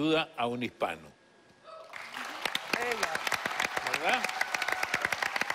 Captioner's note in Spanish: aplausos